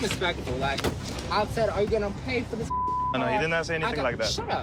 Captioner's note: beep